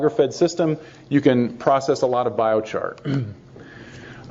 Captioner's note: clears throat